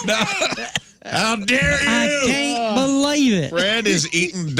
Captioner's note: laughing